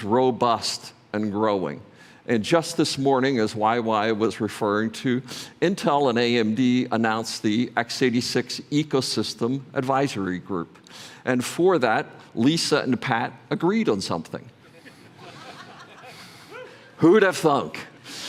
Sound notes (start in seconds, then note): 14.6 laughter